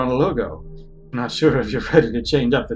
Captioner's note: laughing